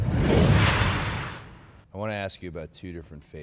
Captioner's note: logo whooshing